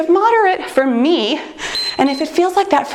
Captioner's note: timer beeps